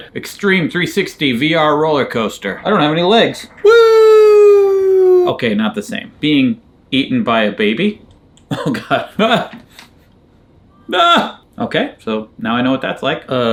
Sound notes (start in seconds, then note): 4.0 rollercoaster clacking